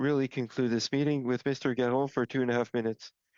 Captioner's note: speaking French